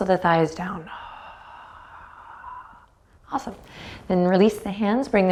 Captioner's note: sighs